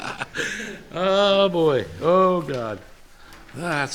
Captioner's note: chuckles